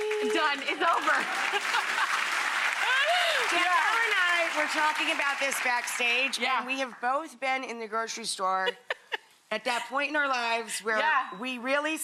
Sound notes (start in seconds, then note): 0.8 laughter